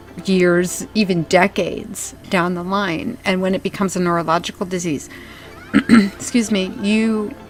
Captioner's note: clears throat